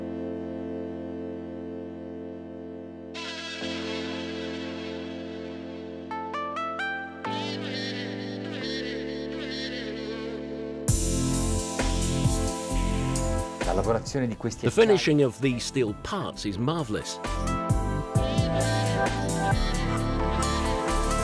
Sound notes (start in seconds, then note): 0.2 relaxing electronic music; 13.6 speaking in Italian; 17.5 relaxing electronic music